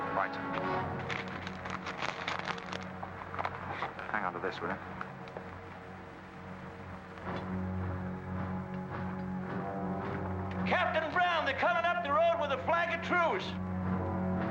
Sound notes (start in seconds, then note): 0.9 paper rustling; 7.4 suspenseful music